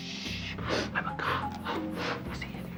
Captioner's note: whispering